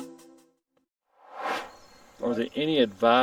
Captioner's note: air swooshes